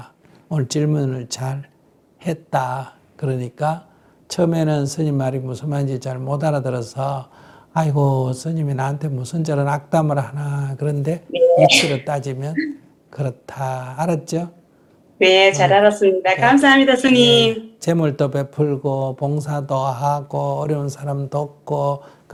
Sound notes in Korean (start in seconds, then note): 15.0 질문자 밝은 목소리